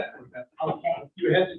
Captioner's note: all chuckling